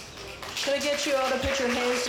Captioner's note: audience applauds